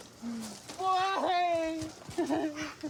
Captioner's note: sobs